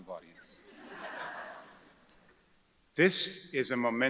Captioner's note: audience chuckles